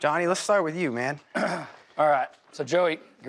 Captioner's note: clears throat